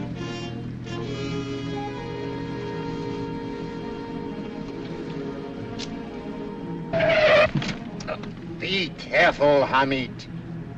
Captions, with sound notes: [tires screeching] Be careful, Hamid!